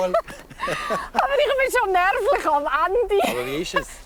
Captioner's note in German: Lachend